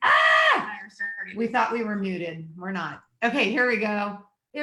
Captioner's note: yells